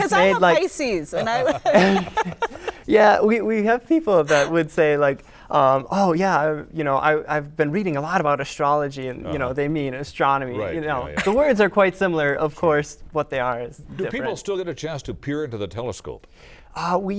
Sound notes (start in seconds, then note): 1.1 laughter